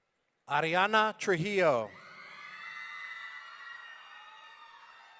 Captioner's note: audience cheering